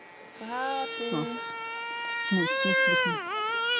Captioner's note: Arabic spoken audio